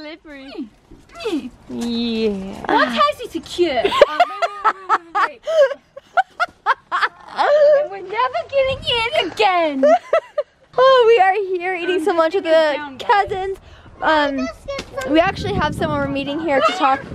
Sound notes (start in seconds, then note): 1.1 groaning; 3.8 laughing